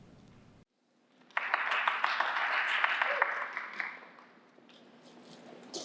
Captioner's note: applause